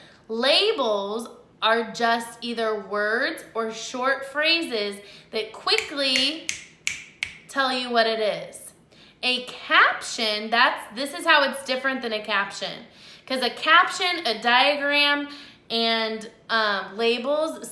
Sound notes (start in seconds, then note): 5.7 fingers snapping